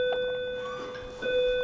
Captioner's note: sounds school bell